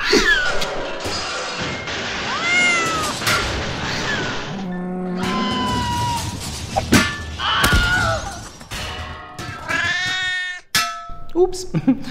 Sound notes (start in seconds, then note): 0.7 sounds of crashing as though a stack of pots and pans has collapsed; 6.0 also bizarre animal sounds